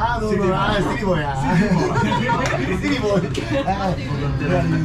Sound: haha

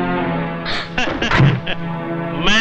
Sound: gasps; laughs

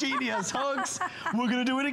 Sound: laughter

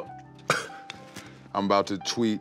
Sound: laughing

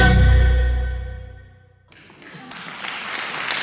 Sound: clapping and cheering

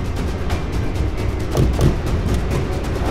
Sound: car door thuds

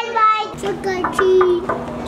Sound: knock

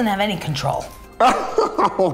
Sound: laughing

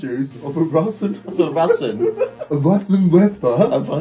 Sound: laughing; imitating a lisp

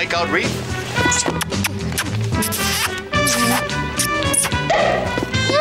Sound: kissing sounds

